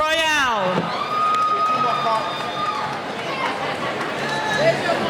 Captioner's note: cheering